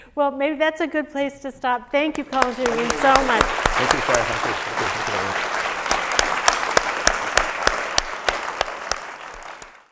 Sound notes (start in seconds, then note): 3.7 applause